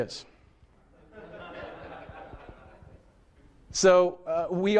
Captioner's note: laughter